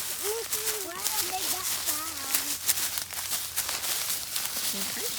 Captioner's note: crunching through the leaves